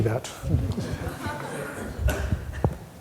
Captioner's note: laughter